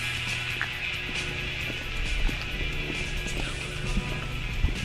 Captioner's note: footsteps thudding